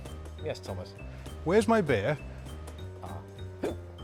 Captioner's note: hiccup